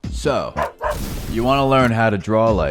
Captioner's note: dog barking